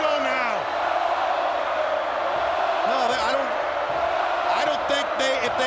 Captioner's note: crowd chanting